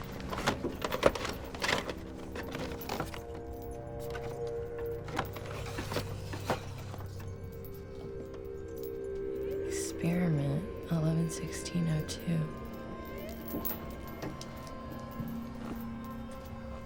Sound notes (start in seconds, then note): 0.0 tapes rattle; 14.0 sinister music